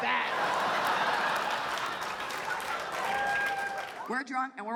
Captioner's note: audience laughs